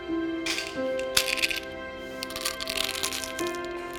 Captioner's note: pills rattling